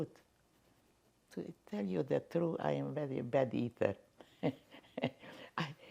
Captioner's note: laughing